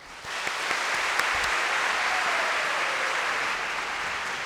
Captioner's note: applause